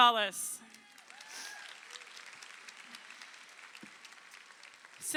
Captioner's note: crowd applauding